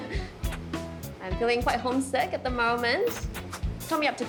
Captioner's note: laughs